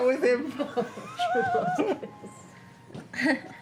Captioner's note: laughter